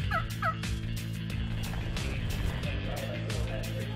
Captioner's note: turkey call